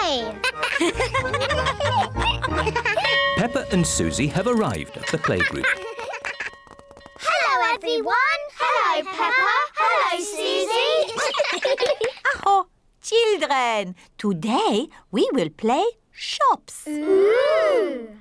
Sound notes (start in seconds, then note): 0.4 all laugh; 10.8 all laugh; 11.7 claps hands; 12.0 exclaims